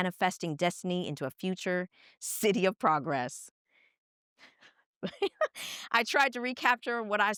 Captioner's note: laughs